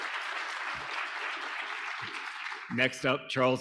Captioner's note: audience applauding